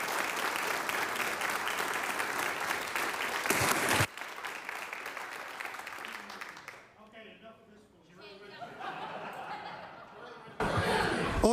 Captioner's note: applause